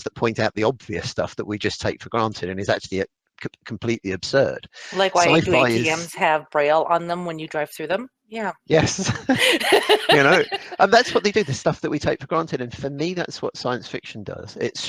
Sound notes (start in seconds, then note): 8.7 laughs